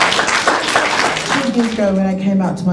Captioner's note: applause